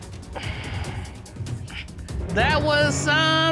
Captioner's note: sighs